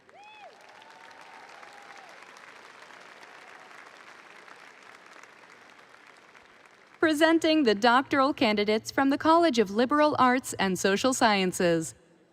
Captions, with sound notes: (audience applauding and cheering) - Presenting the doctoral candidates from the College of Liberal Arts and Social Sciences.